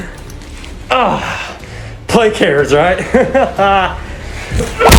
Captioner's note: laughs